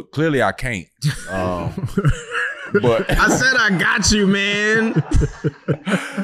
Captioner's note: laughing